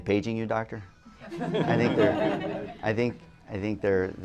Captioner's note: laughter